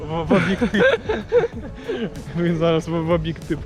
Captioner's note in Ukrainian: сміх